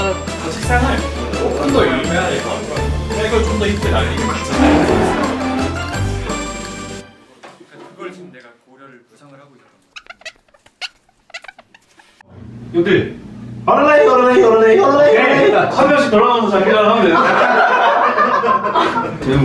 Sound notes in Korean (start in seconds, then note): 11.2 뽀드득 효과음; 17.3 일동 폭소